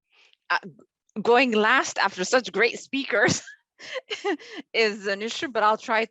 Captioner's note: laughs